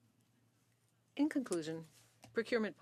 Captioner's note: speaking French